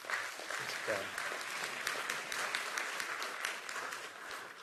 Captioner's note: applause